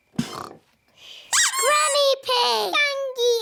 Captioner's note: both snore; duck squeaks